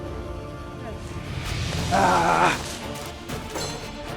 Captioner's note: grunts